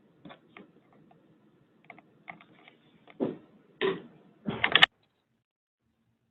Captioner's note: muffled motion